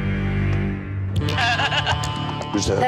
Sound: dramatic music; laughing

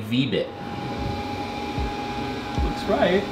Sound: machine whirs

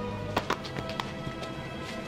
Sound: light smacking

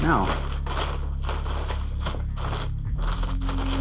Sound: clattering

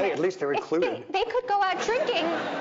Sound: audience laughing

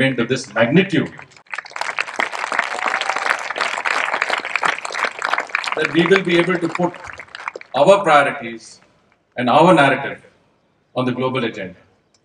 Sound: applause

